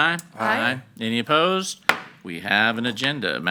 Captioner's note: gavel pounds